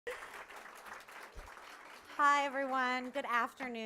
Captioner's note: applauding